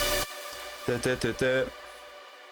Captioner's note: humming